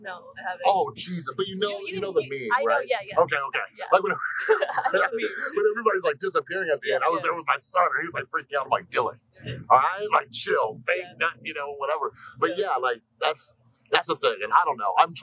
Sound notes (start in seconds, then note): 4.0 laughter